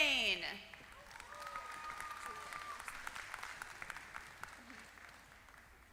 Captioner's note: applause